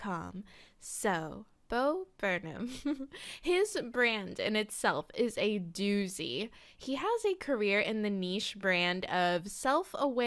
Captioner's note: giggle